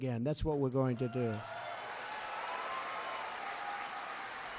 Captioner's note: applause